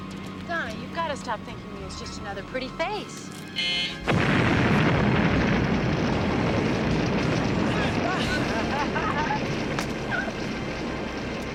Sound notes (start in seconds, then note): 3.5 buzzer beeping; 3.9 booming explosions; 8.2 ladies laughing